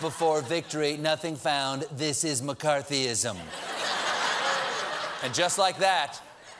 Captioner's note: laughter